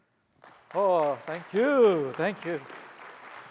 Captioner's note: audience applauds